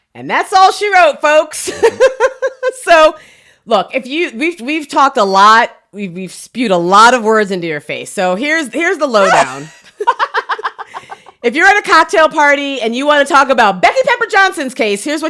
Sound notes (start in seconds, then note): 1.8 laughs; 9.2 laughs